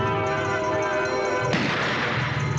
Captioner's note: gunshot